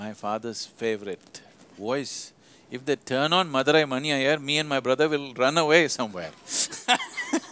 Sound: laughter

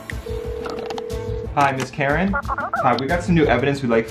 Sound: phone rings

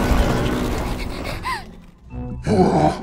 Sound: Pomni panting

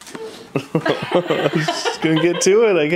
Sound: laughing

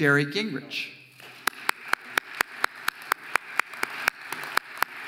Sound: audience applauding

